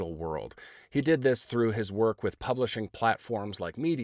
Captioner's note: none